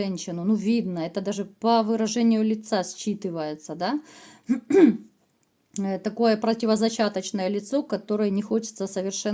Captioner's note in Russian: откашливается